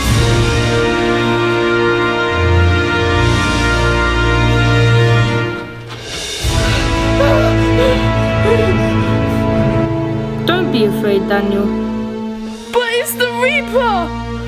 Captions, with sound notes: (victorious music) (screams) Don't be afraid Daniel. - But it's The Reaper!